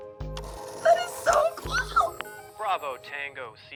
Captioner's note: phone whirs